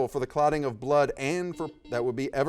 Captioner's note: buzzer dings